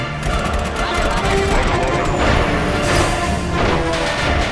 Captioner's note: droids of all shapes and sizes chanting "roger roger"